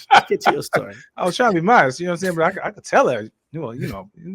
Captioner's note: laughing